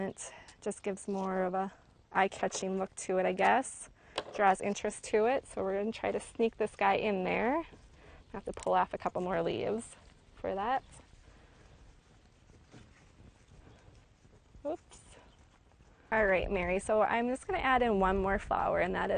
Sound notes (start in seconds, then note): 11.6 rustling